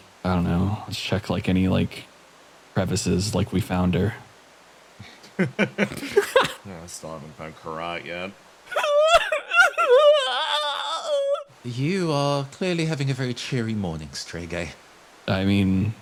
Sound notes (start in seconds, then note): 5.0 laughs; 8.7 whimpering Noises